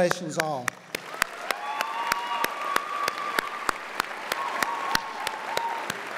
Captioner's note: audience cheers and applauds